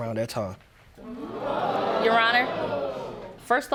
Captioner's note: audience gasping